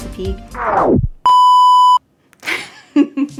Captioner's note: record scratching; screen beeping; laughing